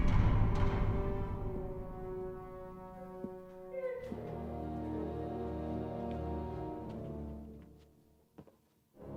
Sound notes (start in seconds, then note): 0.0 thudding; 3.7 woman sobbing